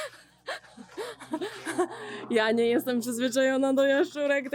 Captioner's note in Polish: śmiech